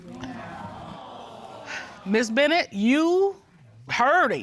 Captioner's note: audience awe; sighs